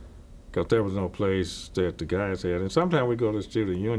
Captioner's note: none